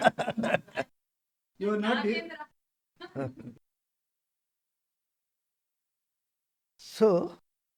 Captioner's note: laughs